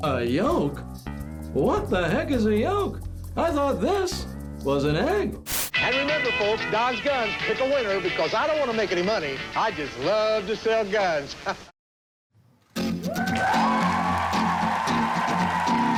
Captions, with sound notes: A yolk, what the heck is a yolk? I thought this was an egg. (static) - And remember folks, Dodge Guns, it's a winner, because I don't wanna make any money. I just love to sell guns. (crowd cheering)